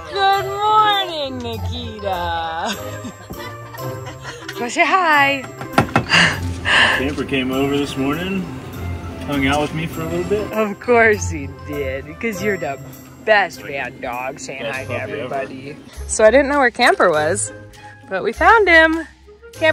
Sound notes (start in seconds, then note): 2.5 group laughs; 5.4 tapping